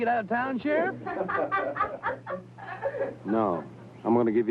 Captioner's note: all laughing